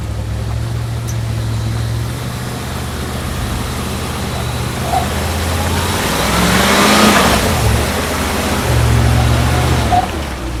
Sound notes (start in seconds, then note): 0.3 engine labouring; 6.2 engine revving